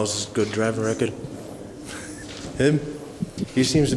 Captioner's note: chuckles